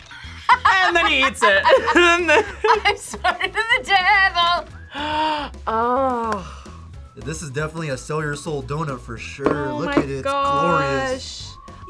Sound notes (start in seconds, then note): 0.1 laughs; 4.8 gasps